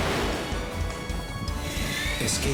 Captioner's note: laser blasts